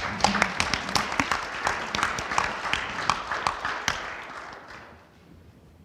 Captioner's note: audience applauding; panel applauding